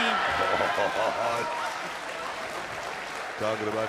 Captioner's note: laughing